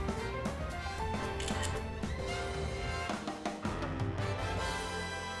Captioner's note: camera shutter sound